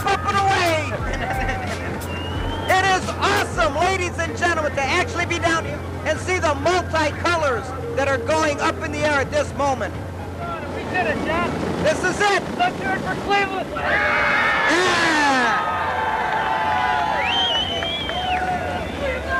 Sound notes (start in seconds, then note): 13.7 crowd cheers